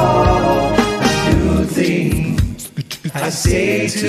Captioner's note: singer beatboxing